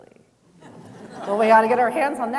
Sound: chuckling

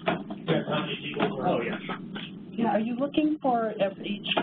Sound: electronic distortion

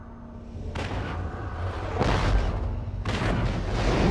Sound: digitized landslide sounds

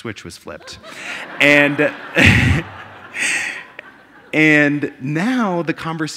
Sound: audience laughing

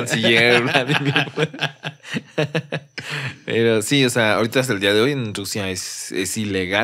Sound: laughs

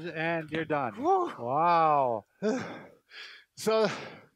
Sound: exhales

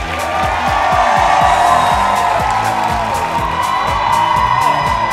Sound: audience cheers loudly

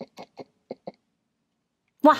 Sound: absolute silence

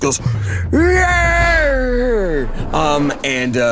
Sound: Krungdar howls

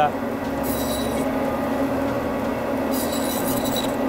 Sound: saw sound

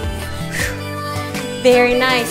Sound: exhales

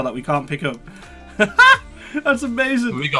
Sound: laughing

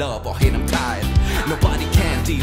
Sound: tired

